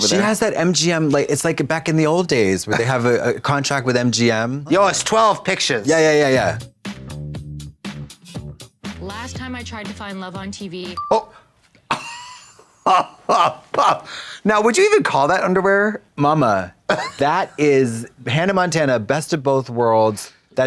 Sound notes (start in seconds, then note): 5.8 funky music; 11.9 Trixie guffaws